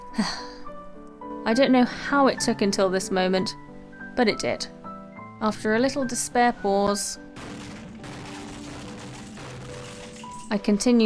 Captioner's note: deep sigh